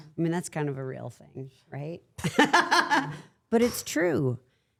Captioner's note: laughs